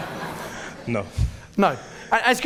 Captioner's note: audience laughing